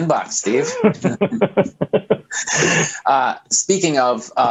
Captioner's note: laughs